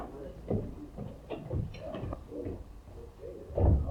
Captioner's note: people chattering